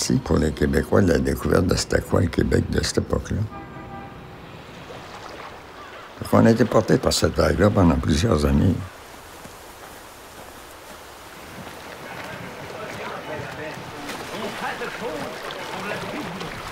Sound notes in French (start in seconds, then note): 3.4 coup de klaxon